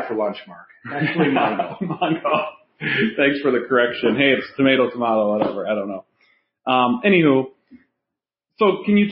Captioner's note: chatter and laughing